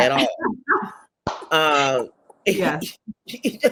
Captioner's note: all laughing